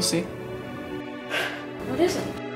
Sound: Lilly cries

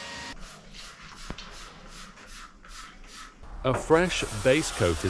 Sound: canister hissing

